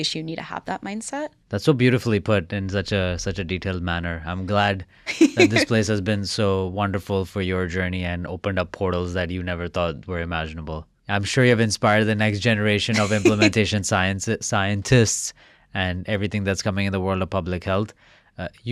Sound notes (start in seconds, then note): 5.0 laughing; 14.7 chuckling